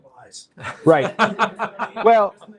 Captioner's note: laughter